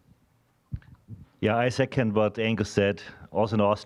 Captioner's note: with Austrian accent